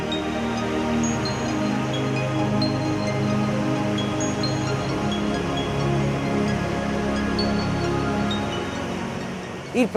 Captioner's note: flowing water noise